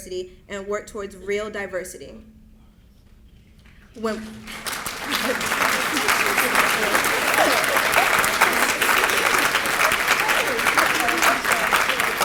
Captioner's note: applause